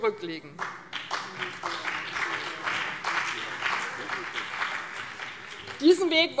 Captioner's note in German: Beifall BÜNDNIS 90/DIE GRÜNEN und CDU